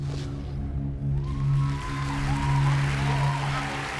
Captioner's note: audience cheers and applauds